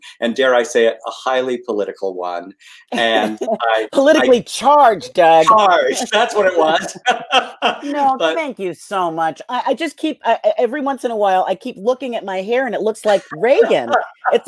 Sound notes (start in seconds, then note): 7.2 laughs